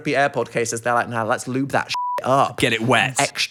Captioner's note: beep